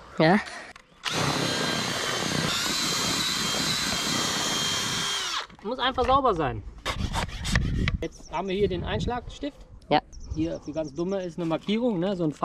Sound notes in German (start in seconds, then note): 1.0 bohren; 6.6 pumpen